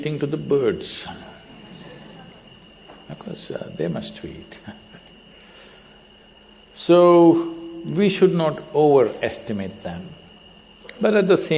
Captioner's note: laughter